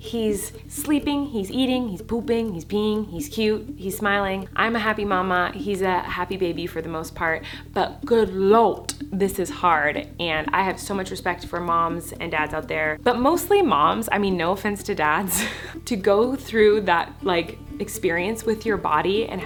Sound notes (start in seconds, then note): 15.3 laughs